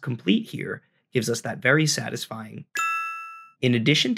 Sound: computer chime

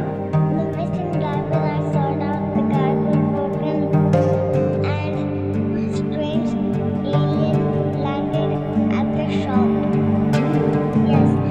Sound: mumbles

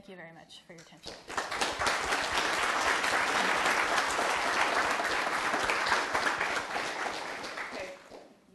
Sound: applause

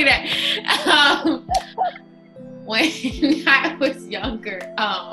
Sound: laughing

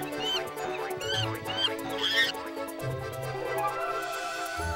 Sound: monkey squealing

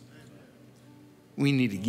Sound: crowd murmurs in agreement

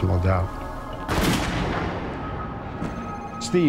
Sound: gun shot fired

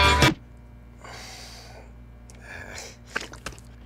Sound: country music; flies buzzing; meat squelching

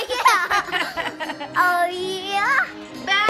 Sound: laughing

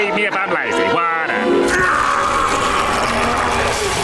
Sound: roaring

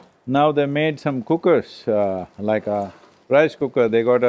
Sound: none

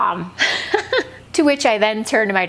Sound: woman chuckles

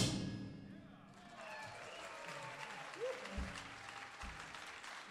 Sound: audience applauding

